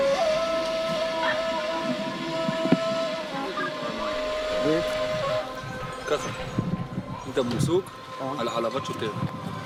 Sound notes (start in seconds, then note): 6.0 Hebrew spoken audio